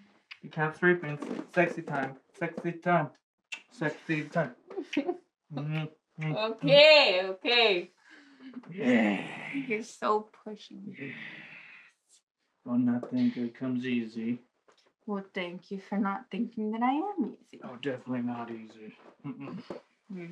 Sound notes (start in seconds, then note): 4.8 she giggles, he kisses her; 19.2 they playfully moan